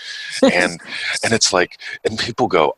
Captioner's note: laughs